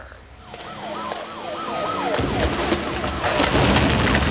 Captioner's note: sirens